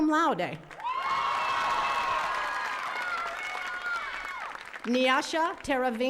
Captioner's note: attendees cheering and clapping